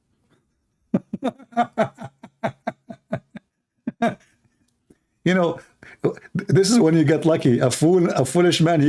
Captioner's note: Ketawa